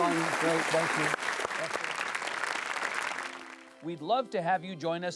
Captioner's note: audience clapping